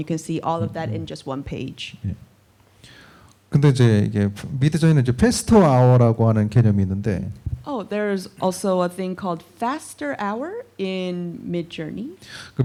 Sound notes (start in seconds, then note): 2.2 speaking korean